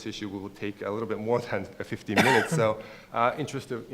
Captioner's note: coughs